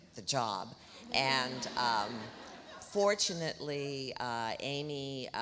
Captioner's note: audience laughs